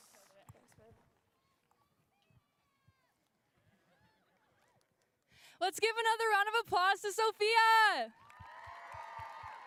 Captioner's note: cheers and applause